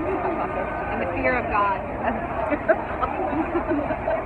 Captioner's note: laughs